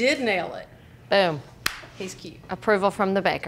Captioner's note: clap